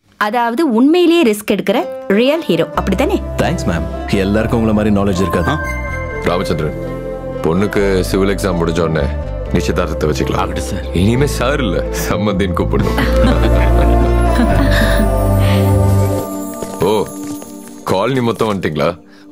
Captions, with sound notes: So, you are the real hero who undergoes real risk, right? Thanks, ma'am. You are so clever, unlike some people. Rama Chandran, we'll fix the engagement date once she is done with her civil exams. - As you wish, sir. Hereafter, stop calling me 'sir'. We are going to be in-laws. (Laughs) Oh! Have you all come here?